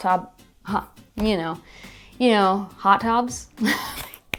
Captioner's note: laughs; slaps face